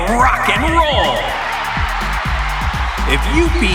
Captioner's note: cheering